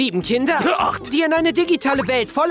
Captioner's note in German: hust